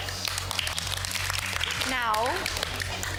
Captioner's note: applause